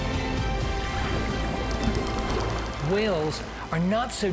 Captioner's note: whales clicking